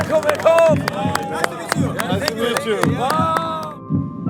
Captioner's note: heart pounding